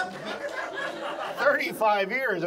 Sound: audience laughs

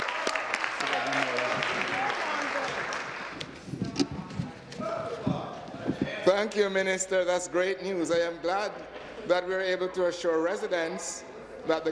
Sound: applause

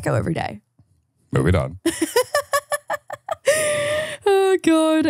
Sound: laughs

